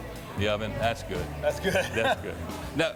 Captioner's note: laughs